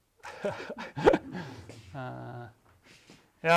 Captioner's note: chuckles